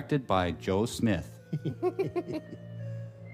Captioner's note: chuckling